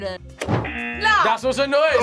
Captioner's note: hammer clatters; buzzer